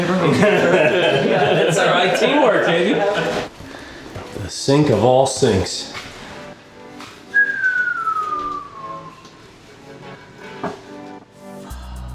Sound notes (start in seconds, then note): 0.3 laughing; 7.2 whistling